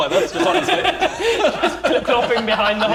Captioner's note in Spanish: Risas